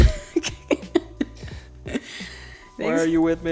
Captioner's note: laughing together